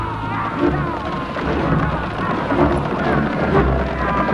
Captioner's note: men clamoring